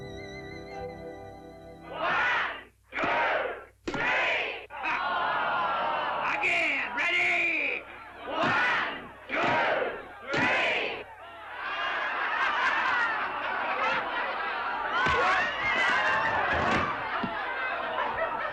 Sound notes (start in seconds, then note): 2.2 crowd; 4.8 crowd groans; 8.5 crowd; 11.5 crowd laughs; 16.4 thump; 18.1 crowd laughs